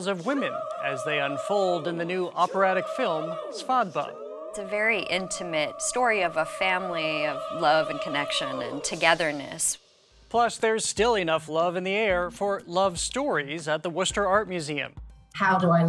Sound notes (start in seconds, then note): none